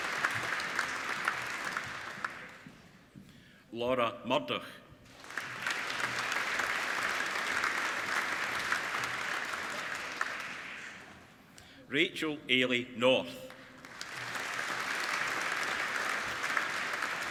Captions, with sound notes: Laura Murdoch (APPLAUDING) Rachel Eilidh North (APPLAUDING)